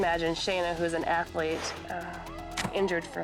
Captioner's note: tube thudding; screaming